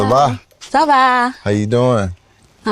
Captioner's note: speaking French